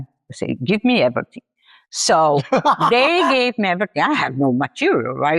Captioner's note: laughs